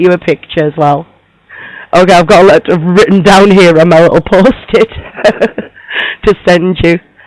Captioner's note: laughs